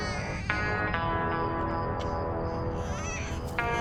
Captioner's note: baby crying